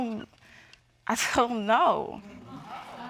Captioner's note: chuckles; audience exclaiming